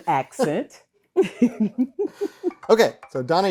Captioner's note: laughing